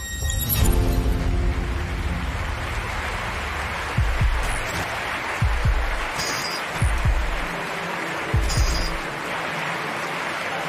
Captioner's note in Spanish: Aplausos